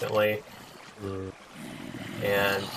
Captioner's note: many zombies growling